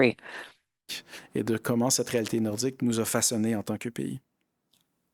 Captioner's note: speaking in French